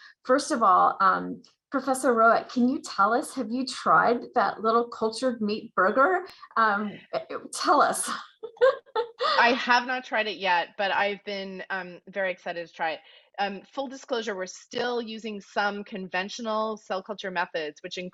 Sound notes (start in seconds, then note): 8.1 laughs